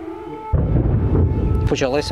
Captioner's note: explosion sound